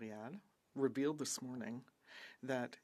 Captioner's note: speaking French